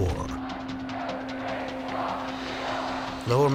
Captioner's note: protestors chanting